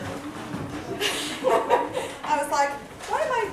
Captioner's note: laughter